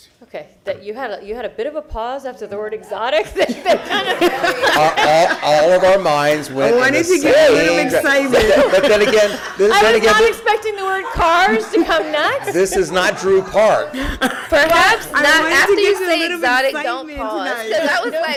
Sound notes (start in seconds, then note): 7.9 laughter